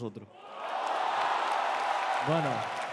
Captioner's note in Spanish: Aplausos